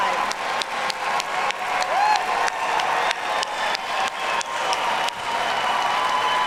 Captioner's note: audience cheers and applauds